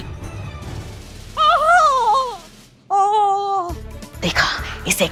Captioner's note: groaning